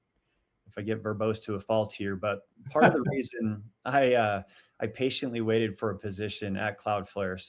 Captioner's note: chuckles